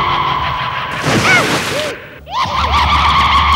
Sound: groans

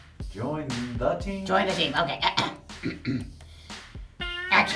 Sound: clears throat

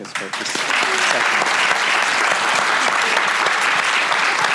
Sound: audience applauding

